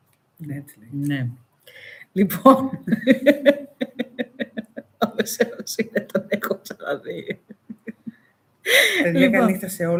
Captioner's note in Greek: γέλια